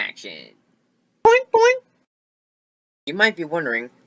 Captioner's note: boink Boink